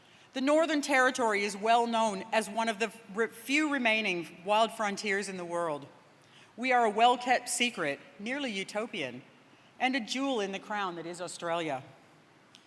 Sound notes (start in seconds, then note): none